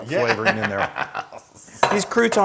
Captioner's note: laugh